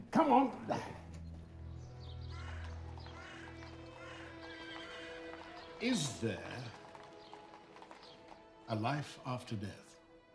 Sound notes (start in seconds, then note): 1.3 birds squawking; 4.1 horse whinnying